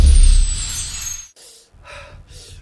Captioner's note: gasps